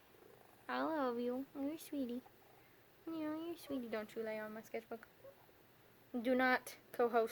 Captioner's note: happy sigh